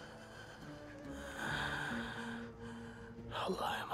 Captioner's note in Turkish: Nefes sesi